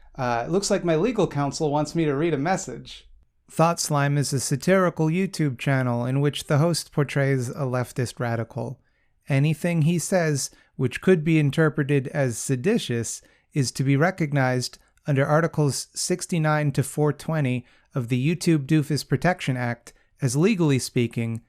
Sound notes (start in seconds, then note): 3.2 deadpan voice